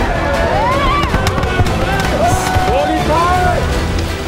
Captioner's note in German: Stimmengewirr